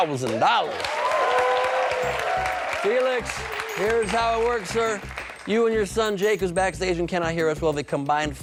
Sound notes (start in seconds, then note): 2.7 cheers and applause